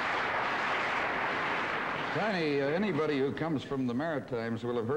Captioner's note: audience applause